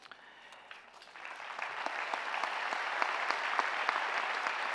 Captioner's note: audience clapping